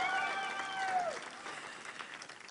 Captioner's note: applause